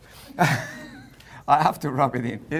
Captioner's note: laughter